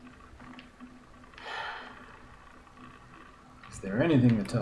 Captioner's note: sighs